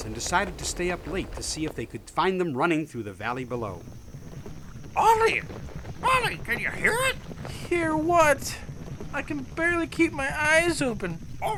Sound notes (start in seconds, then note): 4.9 蹄声